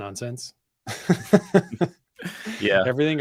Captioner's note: laughs